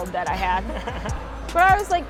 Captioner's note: laughs